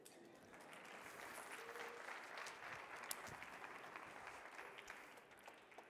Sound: audience clapping

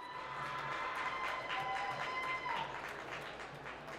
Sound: applause

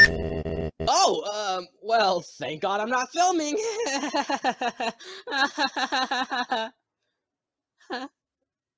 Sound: nervous Laughing

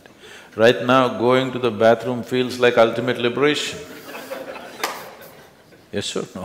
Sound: laughter

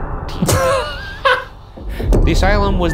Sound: laughing

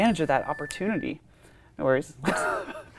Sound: iPhone dings; laughs

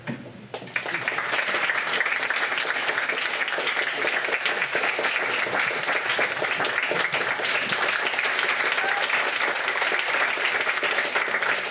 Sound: clapping

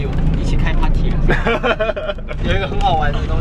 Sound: laughing

